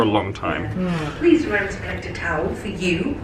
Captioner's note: PA Announcement